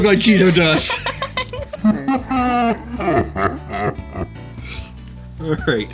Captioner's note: laughing creepily